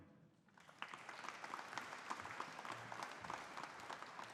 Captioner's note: audience applauding